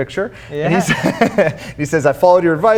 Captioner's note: laughs